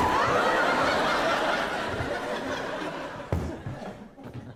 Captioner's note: audience laughing; chair thuds; chair shuffling